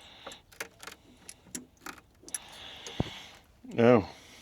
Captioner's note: metal clanking